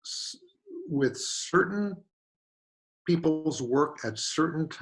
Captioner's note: none